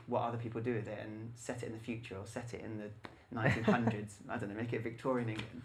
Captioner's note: laughs